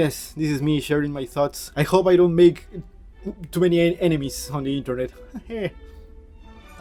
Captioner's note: laughs